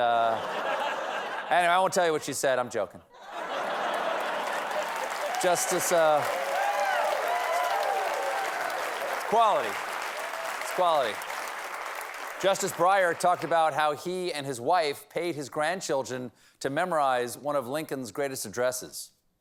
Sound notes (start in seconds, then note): 8.2 applause; 8.2 cheers and applause